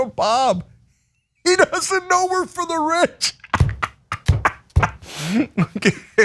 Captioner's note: laugh